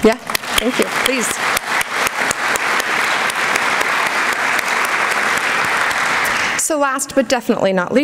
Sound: applause

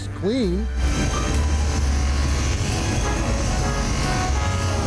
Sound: machine vibrating

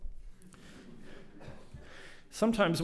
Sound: audience laughs

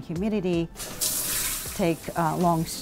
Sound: shower running sound

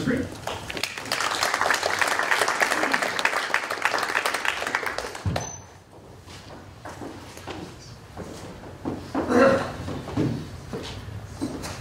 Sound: applause

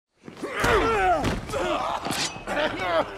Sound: groaning

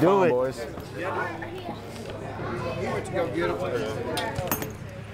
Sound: boys chattering

